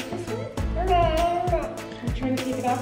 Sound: babbles

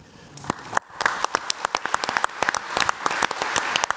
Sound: audience applauds

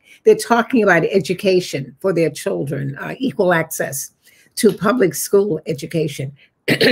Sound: coughs

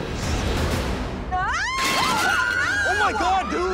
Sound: people screaming

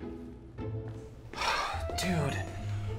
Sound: sighing

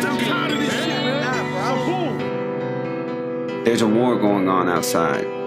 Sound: people angrily yelling

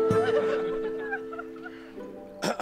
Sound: crying; clearing throat

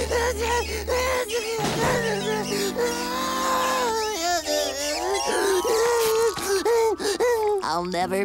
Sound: crying

